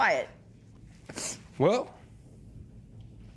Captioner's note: sniffles